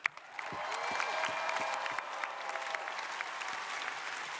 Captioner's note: crowd applauding